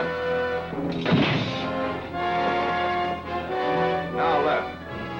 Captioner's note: grate slams